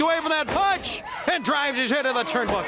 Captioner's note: crowd chatter